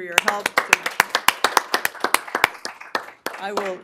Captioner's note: applause